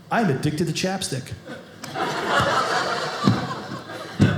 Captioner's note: audience laughing